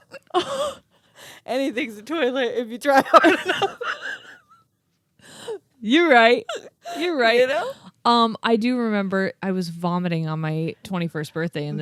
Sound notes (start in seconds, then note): 0.0 chuckles; 3.0 laugh